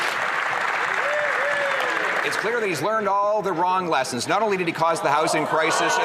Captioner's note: some Applause